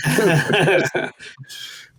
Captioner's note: laughing